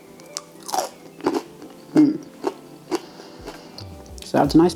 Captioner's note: cronch cronch cronch